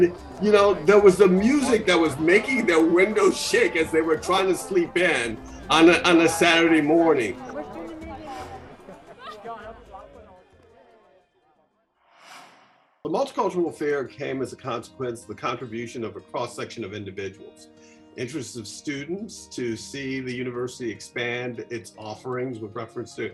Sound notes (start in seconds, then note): 7.9 crowd noises end; 9.8 soft guitar music throughout